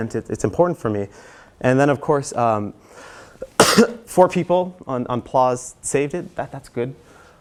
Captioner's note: cough